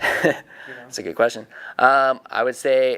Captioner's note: laughing